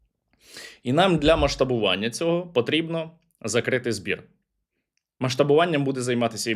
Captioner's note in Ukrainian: сопіння